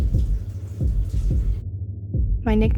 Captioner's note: shower ends